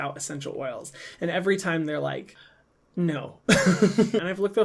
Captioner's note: laughs